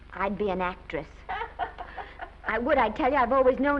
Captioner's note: Mattie laughs